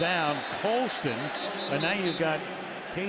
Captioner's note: whistle blowing